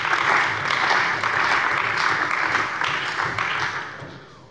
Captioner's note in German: Beifall bei der CDU und dem BÜNDNIS 90/DIE GRÜNEN